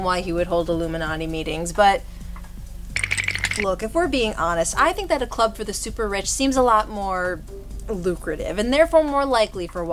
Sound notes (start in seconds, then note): 3.0 cartoon shake